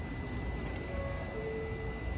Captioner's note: ding-Dong